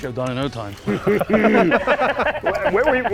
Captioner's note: everyone laughs